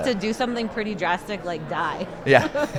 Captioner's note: chuckles